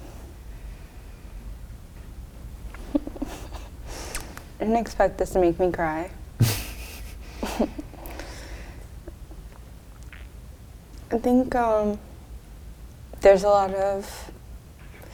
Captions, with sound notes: (laughs) I didn't expect this to make me cry. (both laugh) I think... There's a lot of...